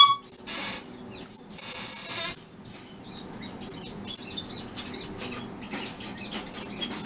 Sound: squeaky toy squeaks

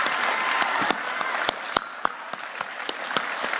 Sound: cheering

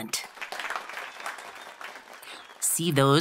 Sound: applause

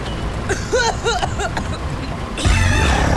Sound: coughs

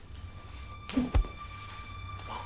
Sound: woosh

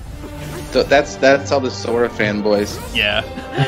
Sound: laughing; laughs

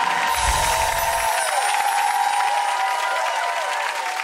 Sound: applause

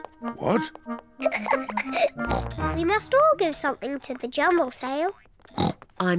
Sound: giggles; oinks

